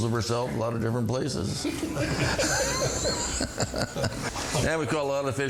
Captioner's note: all laughing